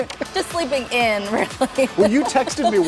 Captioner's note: laughter